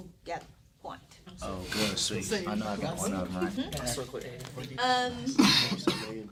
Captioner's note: students murmur